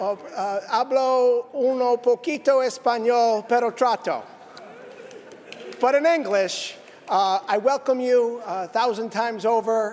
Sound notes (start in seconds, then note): 2.3 speaking spanish